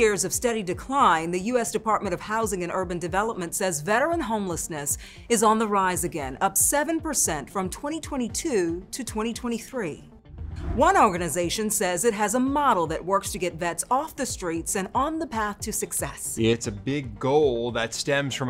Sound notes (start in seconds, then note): 10.3 graphics whooshing